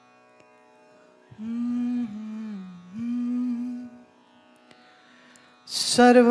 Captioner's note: humming